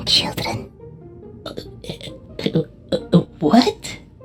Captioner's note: Plushtrap stuttering